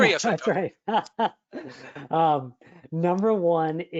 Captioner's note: laughs